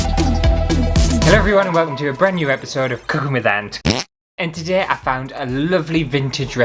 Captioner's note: intro Music; fart!